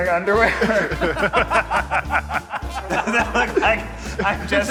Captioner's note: group laughing